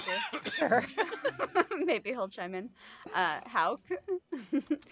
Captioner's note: laughter